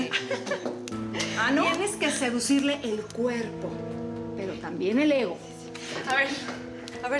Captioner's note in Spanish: risas